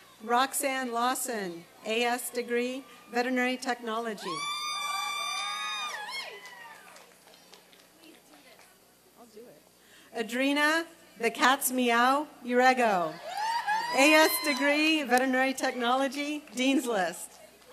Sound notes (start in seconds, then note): 4.7 applause and cheering